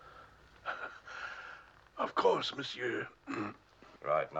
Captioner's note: clears throat